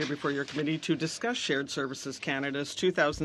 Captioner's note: speaking French